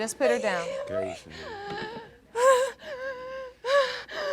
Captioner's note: shuddering; hyperventilating